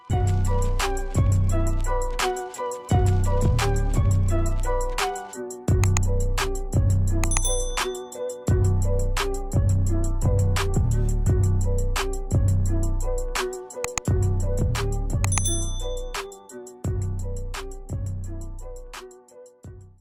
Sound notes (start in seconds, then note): 0.6 upbeat hip hop music; 5.8 clicking; 7.2 bell chiming; 13.8 clicking; 15.3 bell chiming